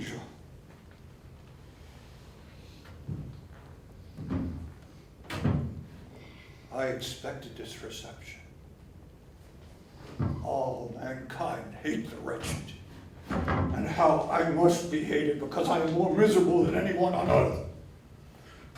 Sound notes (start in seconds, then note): 2.7 footsteps